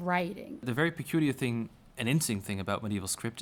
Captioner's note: voiceover